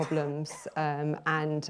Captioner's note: coughing in the background